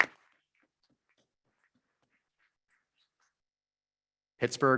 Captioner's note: members clapping